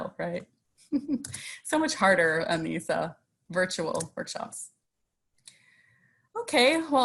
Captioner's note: chuckles